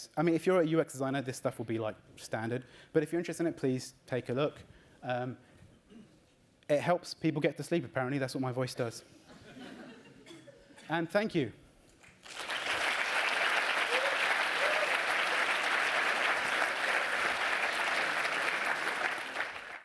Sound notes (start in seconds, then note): 12.0 applause